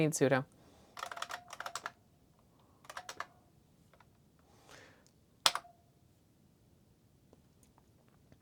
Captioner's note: Model M typing sounds